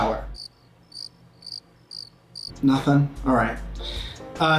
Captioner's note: crickets chirp